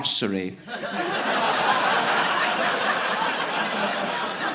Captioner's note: audience laughing